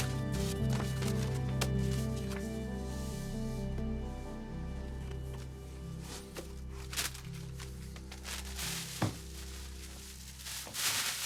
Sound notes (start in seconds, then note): 0.0 paper rustling; 7.4 trash rustles